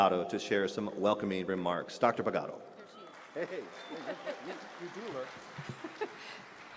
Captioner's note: applause